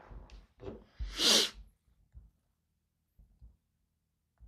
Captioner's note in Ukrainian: сопіння